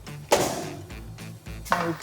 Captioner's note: oven door thuds